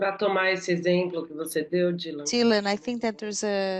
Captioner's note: speaking Portuguese